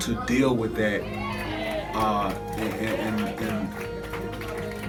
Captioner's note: audience cheering